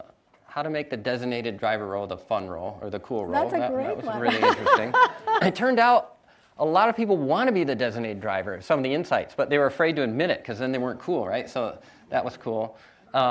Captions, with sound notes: the designated-driver role the fun role, or the cool role, that was really interesting. - That's a great one (laughs). - It turned out, a lot of people want to be the designated driver, in some of the insights, but they were afraid to admit it, 'cause then they weren't cool, right? So that was cool.